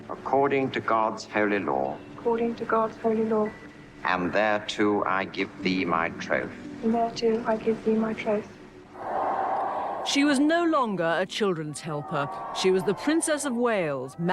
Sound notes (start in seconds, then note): 9.0 crowd cheering